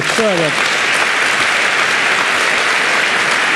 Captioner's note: applause